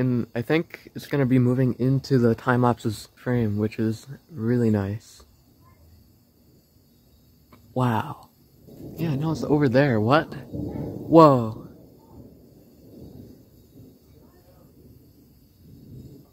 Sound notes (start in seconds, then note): 9.8 thunder rumbling; 11.9 thunder quiets down